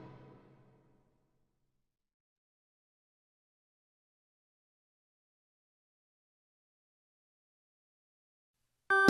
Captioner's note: accidental awkward silence between songs